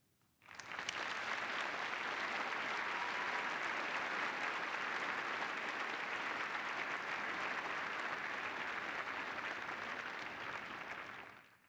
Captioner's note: applause